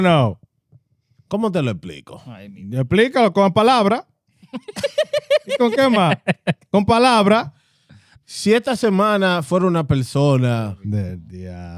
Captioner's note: speaking Spanish